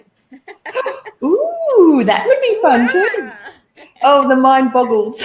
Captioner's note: laughing